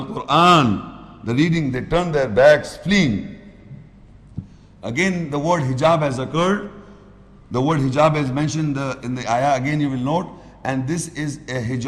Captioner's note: Arabic